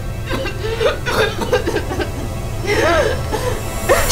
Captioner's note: coughing